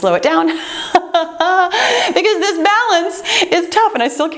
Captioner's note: laughing